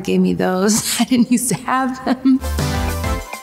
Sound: chuckles; bright music

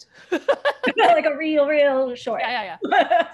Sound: laughter

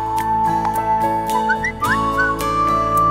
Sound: cell phone chimes

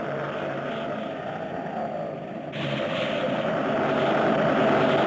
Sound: wind whooshing

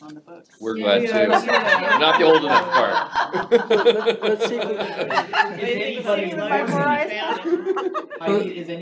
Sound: all chattering, laughing

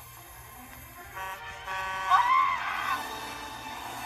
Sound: truck horn honking

